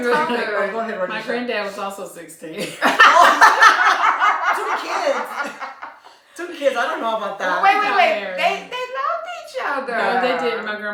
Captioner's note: laughter